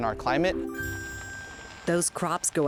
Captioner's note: soft chiming